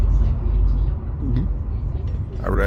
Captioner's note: gulp